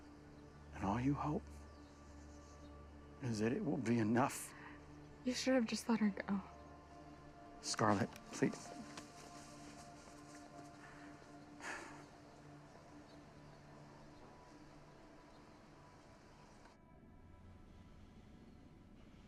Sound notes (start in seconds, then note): 11.5 sighs